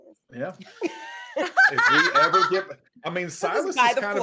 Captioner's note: all laughing